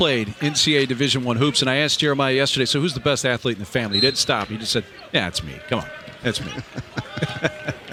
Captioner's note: laughter